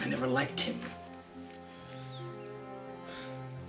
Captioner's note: sighs